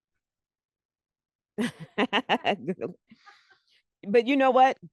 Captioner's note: laughter